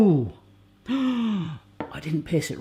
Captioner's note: gasps